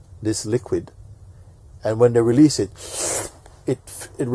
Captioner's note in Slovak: zvuk vypustenia